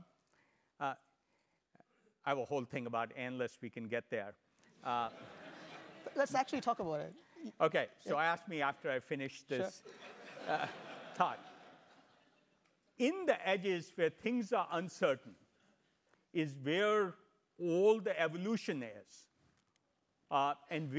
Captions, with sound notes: I've a whole thing about analysts we can get there. >> [LAUGHTER] >> Let's actually talk about it. >> Okay. So ask me after I finish this. >> Sure. >> Talk. In the edges where things are uncertain is they're old evolutionists and